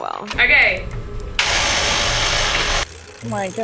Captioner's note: machine rolling